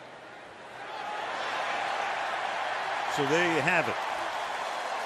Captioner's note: cheering